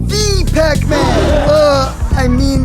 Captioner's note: ghosts: *Gasp